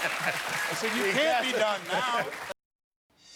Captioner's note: laughter; cheers and applause